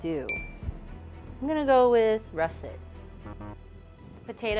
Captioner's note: ping; buzzer sounds